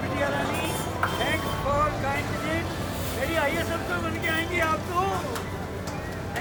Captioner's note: conversing with customer